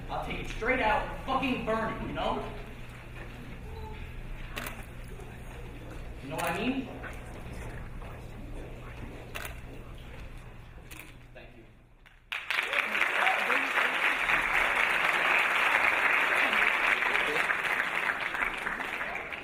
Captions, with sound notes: I'll take it straight out, fucking burn it, you know? You know what I mean? Thank you. (audience clapping)